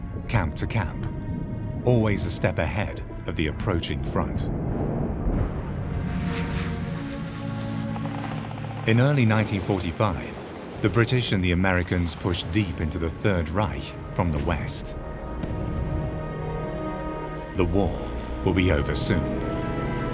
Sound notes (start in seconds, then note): 6.1 planes whir